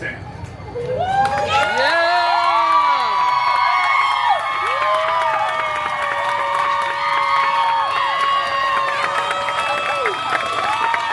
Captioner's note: guests cheering and applauding